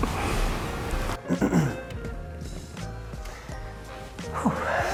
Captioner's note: clears throat; huffs